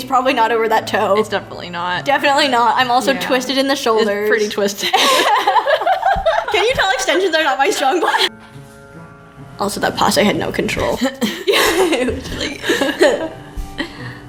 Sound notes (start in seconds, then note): 10.8 laughs